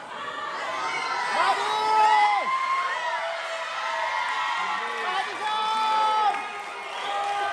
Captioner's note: applause